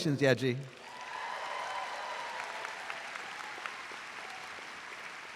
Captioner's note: audience applauds